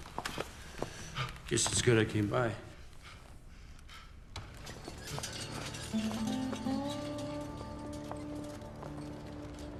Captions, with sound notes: Guess it's good I came by. (PANTING)